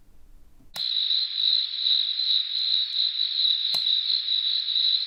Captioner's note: light switch clicks; insects chirping